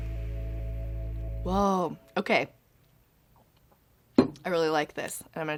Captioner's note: sets glass on table